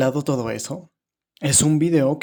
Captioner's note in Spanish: Silencio